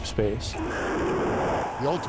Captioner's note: rocket blast